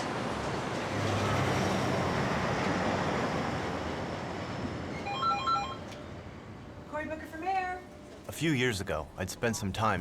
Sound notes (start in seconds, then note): 5.0 telephone rings